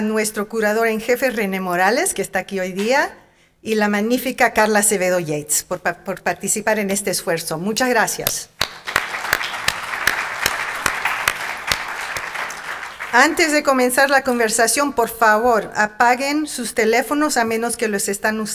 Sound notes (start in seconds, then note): 8.5 audience clapping; 12.7 speaking in Spanish